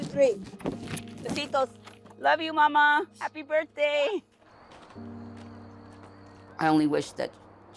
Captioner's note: speaking in Spanish